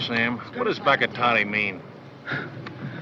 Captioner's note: chuckles